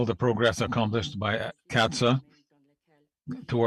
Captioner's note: speaking French